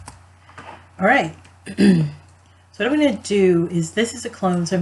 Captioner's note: clears throat